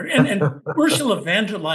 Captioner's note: laugh